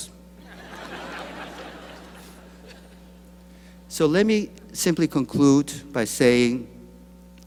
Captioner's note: laughter